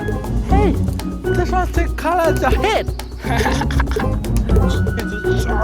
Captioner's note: snickers